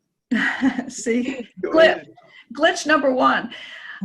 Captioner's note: laughs